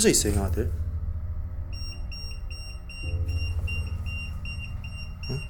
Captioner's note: beeping